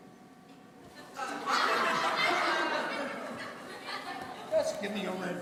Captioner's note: audience laughing